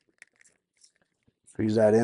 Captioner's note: liquid fizzling